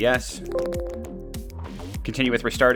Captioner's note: computer bell tone